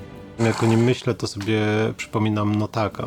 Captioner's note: in Polish